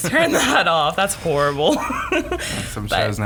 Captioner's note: laughs